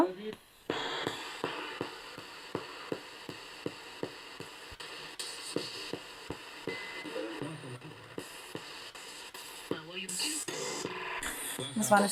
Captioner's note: sound of the Spirit Box in the background